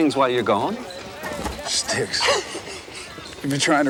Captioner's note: Anthony chuckles